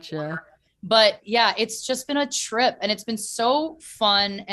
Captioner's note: none